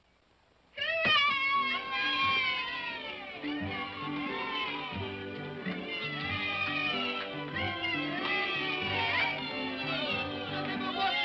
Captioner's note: children cheer; upbeat music